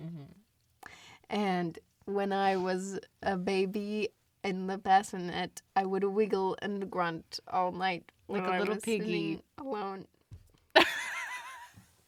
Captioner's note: laughs